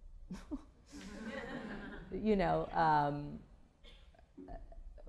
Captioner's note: laughter